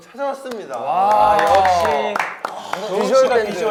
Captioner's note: applause for an excellent choice